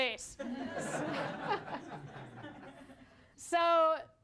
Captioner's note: laughter